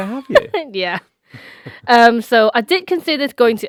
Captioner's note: laughs